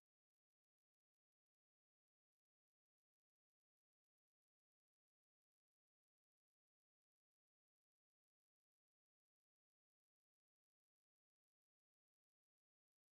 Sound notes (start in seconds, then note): none